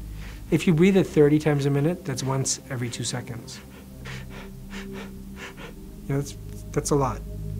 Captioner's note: breathes audibly